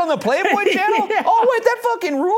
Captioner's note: laughs